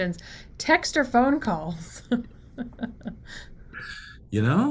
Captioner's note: laughs